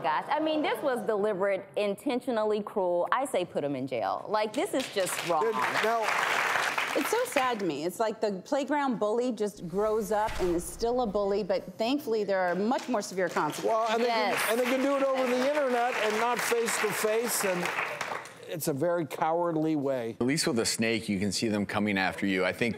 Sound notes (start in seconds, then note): 4.8 audience applauds; 13.3 audience applauds